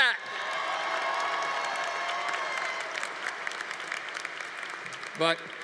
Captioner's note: audience cheering; audience applauding